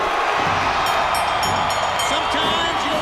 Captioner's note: bell dinging